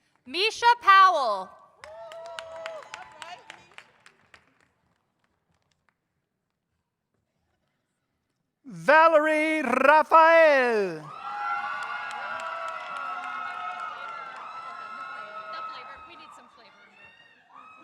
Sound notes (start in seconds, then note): 1.8 audience applauds; 11.3 audience cheers